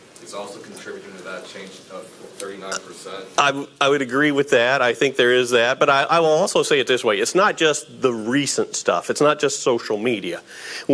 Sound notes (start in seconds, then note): none